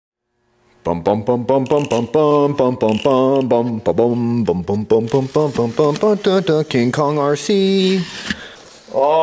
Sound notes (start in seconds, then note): 0.9 mimicking suspenseful music